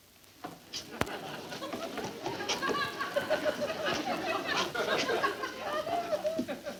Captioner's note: audience laughs